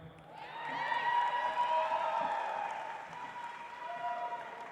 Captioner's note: audience applauds